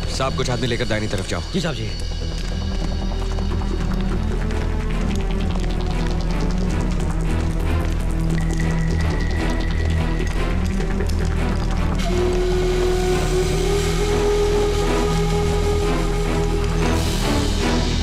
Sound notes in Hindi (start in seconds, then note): none